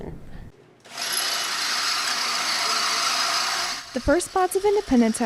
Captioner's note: drilling